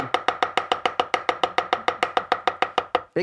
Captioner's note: chopping